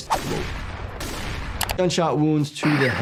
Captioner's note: gun fires